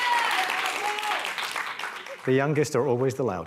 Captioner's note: applause, cheering